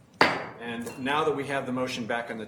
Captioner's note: banging gavel